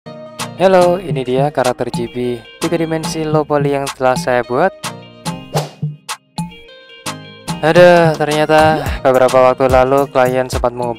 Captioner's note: foreign language